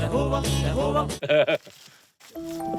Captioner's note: laughs; suspenseful music